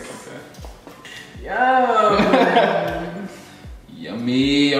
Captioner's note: laughing